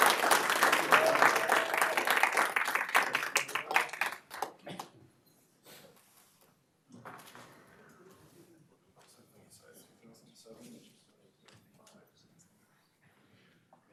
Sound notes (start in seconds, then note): 3.2 applause